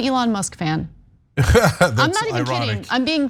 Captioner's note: laugh